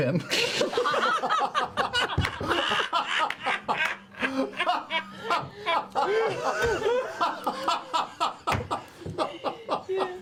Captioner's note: all laugh